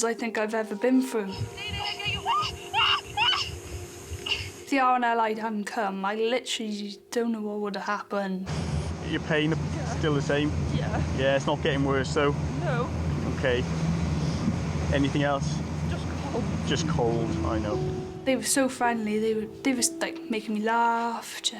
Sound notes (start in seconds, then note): 1.6 screams